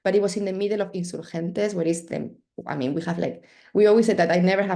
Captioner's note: spanish